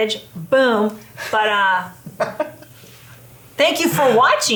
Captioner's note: laughs